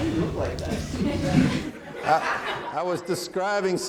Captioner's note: audience laughing